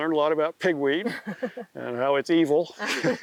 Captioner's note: interviewer laughing